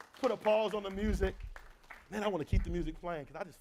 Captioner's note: clapping